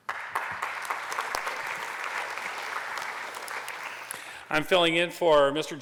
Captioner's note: applause